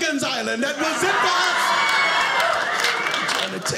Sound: audience cheering

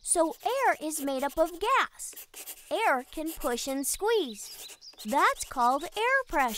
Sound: Bailey scribbles in his journal

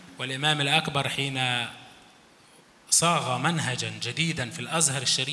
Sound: speaks in foreign language

